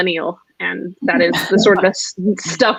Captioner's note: laughs